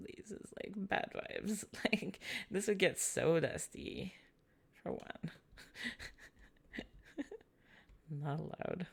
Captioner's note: laughs quietly